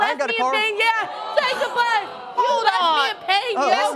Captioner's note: disapprovingly